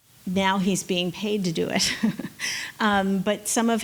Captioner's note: laughs